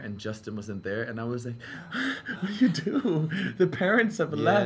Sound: pants

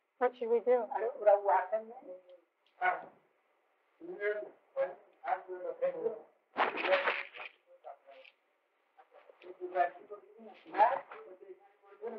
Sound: Hindi

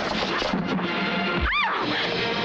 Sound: screams

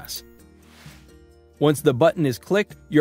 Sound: screen whooshes

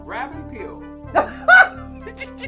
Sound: laughs

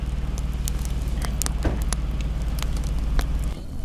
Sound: fire crackling

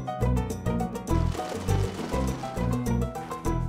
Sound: birds flying

